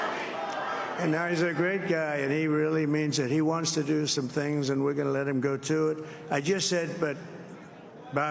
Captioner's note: crowd chanting "bobby"